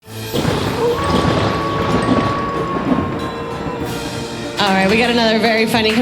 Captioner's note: dramatic music; wolf howling